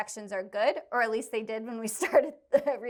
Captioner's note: laughter